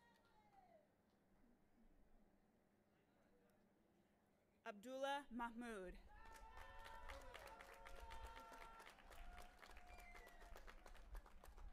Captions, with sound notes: - Abdullah Mahmoud. (audience applauding and cheering)